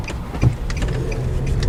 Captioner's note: car Engine Racing